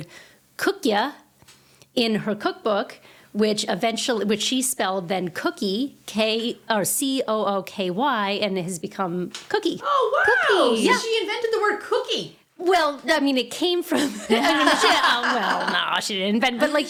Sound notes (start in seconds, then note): 14.0 laughing